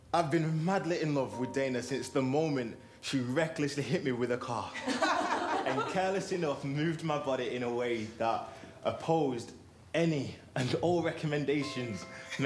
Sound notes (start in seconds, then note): 4.7 attendees laughing